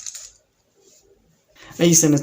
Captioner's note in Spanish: Silencio